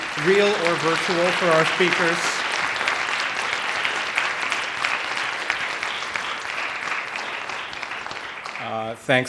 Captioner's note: applause